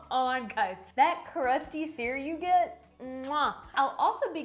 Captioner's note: smacks kiss